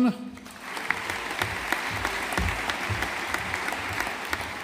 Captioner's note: audience applauding